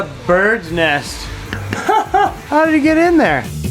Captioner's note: laughs